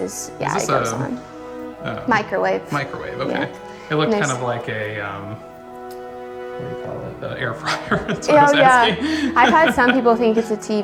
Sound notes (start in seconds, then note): 7.4 laughs